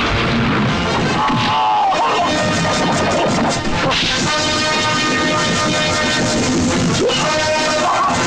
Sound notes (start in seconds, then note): 1.2 groaning